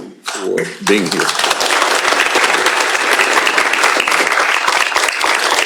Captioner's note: applause